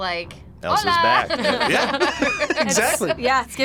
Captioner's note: both laugh